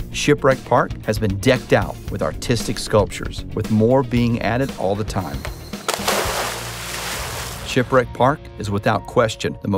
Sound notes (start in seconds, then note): 5.7 water sloshes